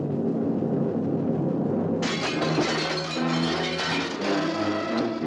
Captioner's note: glass shatters